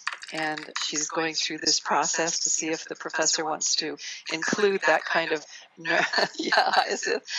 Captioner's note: laughter